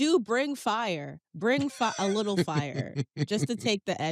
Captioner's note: laughs